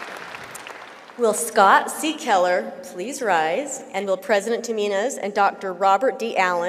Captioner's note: applause